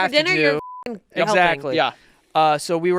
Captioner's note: beep